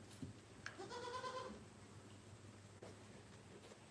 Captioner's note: goat bleats